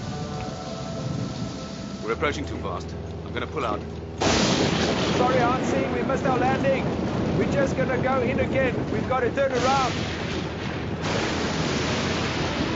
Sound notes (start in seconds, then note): 4.7 thunder crashes; 10.2 thunder crashes